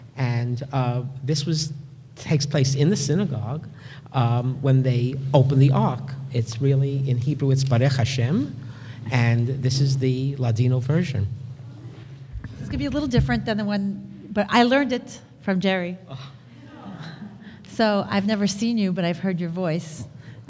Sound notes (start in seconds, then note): 7.0 foreign language